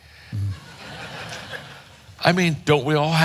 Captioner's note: audience laughing